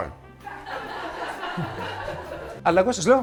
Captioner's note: team laugh